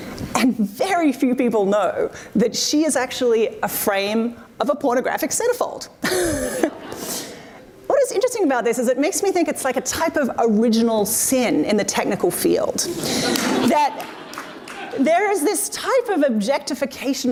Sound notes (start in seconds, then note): 7.0 laughing; 12.9 audience laughs